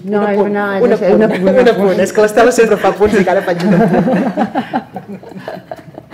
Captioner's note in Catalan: riures